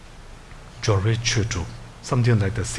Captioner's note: speaking in foreign language